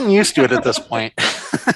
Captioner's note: laughs